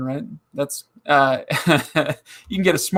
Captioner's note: laughing